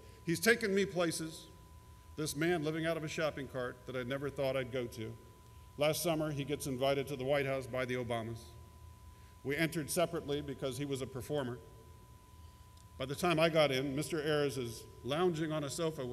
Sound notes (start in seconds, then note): none